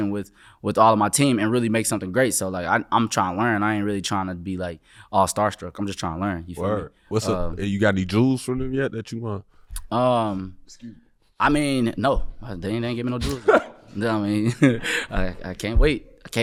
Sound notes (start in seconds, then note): 13.2 laughing